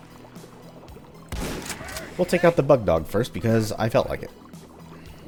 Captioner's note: BOOM, Vultures/Bugdogs alerted